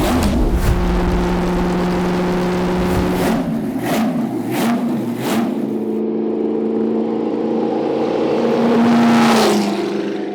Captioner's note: engine roars